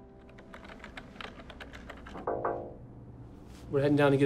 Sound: knock on glass

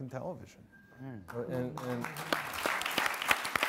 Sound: audience applauds

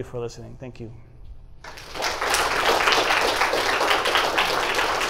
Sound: applause

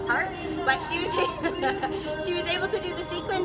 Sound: laughs

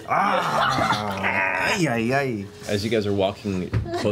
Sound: growls

